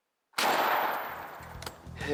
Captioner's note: turkey calling; gun firing; upbeat music